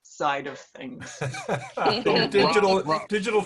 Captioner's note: laughs